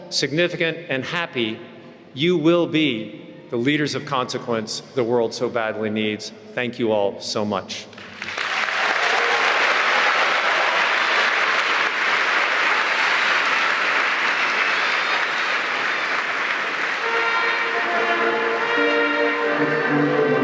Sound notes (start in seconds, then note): 8.3 applause; 17.1 upbeat music